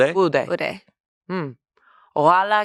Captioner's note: everyone speaks foreign language